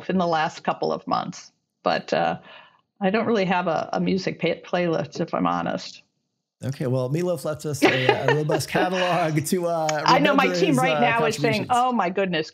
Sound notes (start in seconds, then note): 7.8 laughing